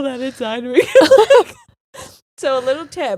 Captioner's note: both laughing